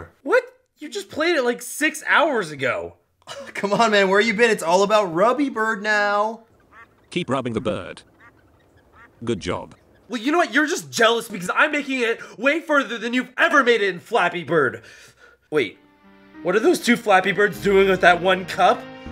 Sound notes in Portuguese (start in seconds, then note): 6.5 Quacking